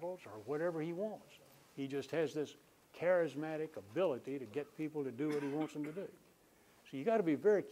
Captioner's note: coughing